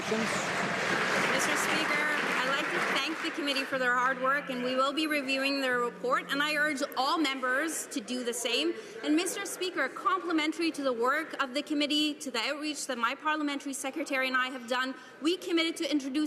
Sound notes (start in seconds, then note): 2.5 some Applause